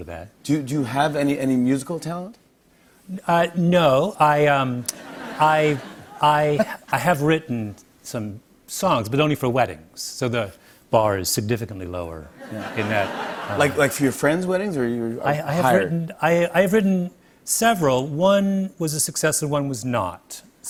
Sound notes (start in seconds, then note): 4.8 laughter; 12.4 laughter